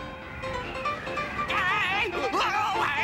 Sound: yelling

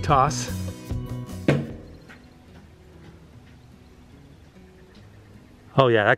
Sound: fading sound of material hitting plastic

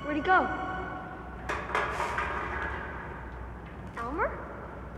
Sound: can clatters

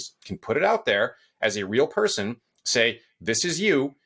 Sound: none

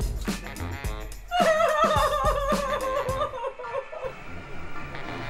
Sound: sobbing

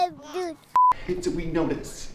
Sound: tone beeps

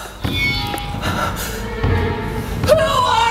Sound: gasping

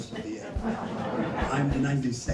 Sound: crowd laughs

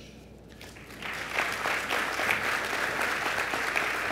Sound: applause

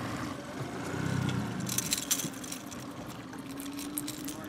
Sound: boat engine idling; lure rattling

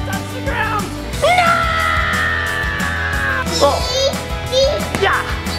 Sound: screaming

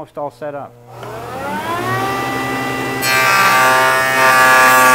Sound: motor whirs

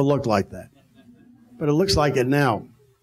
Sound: audience laughing

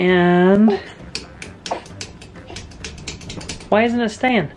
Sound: clicking

